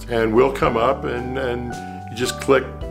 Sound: none

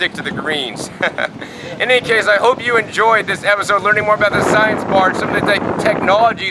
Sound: laughs

